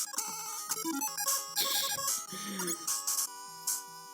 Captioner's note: giggles